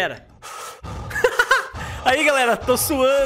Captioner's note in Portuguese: risos